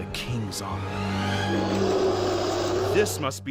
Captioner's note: growl